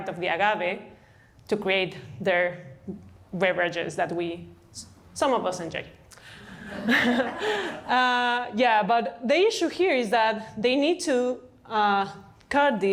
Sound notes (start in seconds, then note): 6.4 laughter